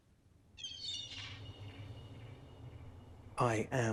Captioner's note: seagull mewing